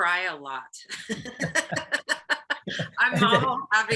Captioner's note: both laugh